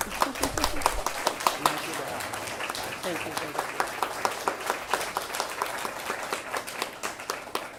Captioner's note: applause